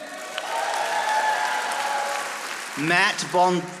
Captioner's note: audience applauding